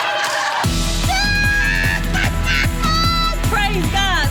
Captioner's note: laughs